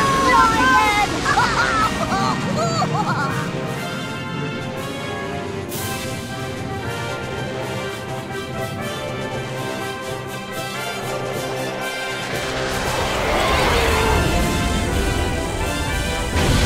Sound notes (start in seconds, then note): 6.2 grand horn music; 11.9 engine roars